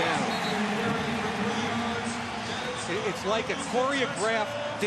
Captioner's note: pa announcement